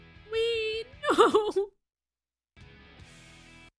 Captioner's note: crying